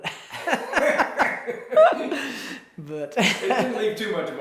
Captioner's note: both laugh